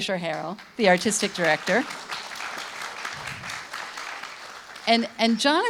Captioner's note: audience clapping